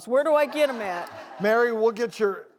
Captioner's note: crowd laughs